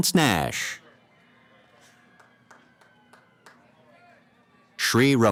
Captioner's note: applause